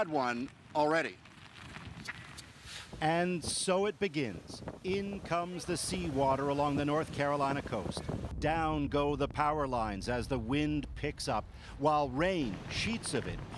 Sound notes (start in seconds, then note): none